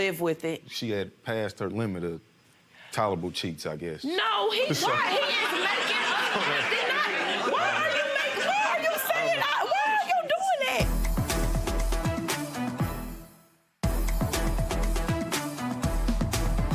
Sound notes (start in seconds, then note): 4.6 audience laughs; 11.0 dramatic music